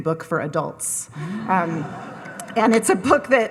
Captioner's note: audience laughing